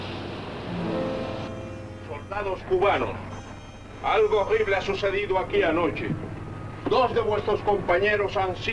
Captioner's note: General Tostada speaking in Spanish